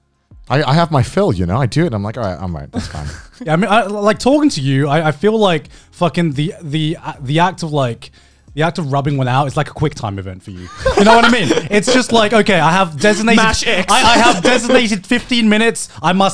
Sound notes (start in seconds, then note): 10.5 laughs